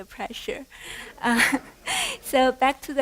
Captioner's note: laughter